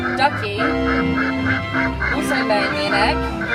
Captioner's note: duck quacking